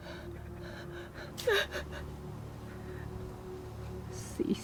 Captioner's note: Julie softly cries